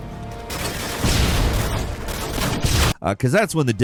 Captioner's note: suspenseful music; guns firing; bomb booming